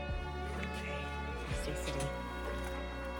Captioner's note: whispers